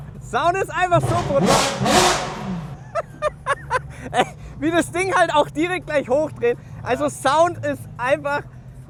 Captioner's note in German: gelächter